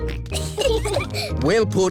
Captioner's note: peppa and george giggling